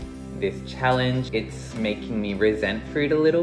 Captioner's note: voiceover